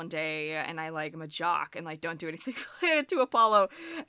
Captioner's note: chuckles